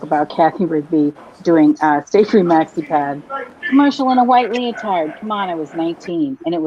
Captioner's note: laughs